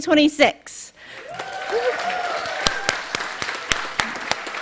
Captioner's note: cheering, applause